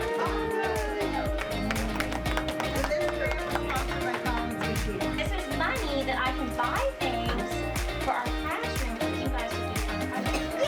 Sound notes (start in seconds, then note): 0.0 applause and cheering; 0.0 applause; 10.4 children cheering